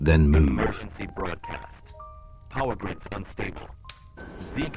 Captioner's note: radio announcement